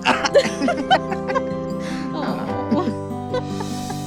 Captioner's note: laughing